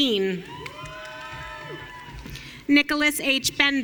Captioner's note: audience cheering